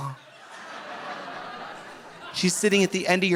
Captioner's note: audience laughing